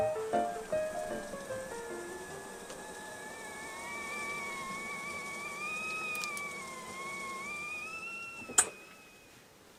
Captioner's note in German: Kessel pfeift